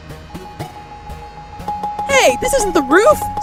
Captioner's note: hasty, repeated elevator button pressing